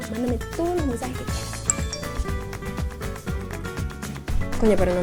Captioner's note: message notification